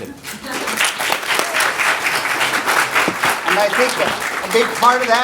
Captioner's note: audience applauding